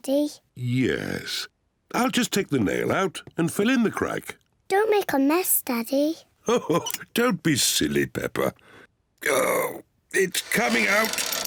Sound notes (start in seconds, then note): 6.3 chuckles